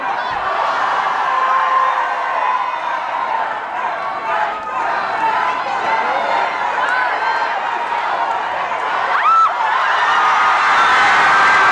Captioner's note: crowd; cheering